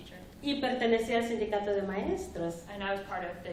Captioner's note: speaking spanish